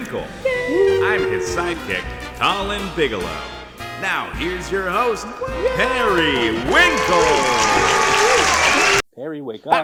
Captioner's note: applause